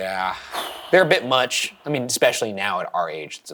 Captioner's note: sighs